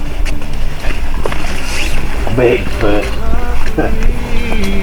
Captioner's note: laughs